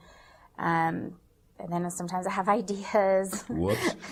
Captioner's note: laughs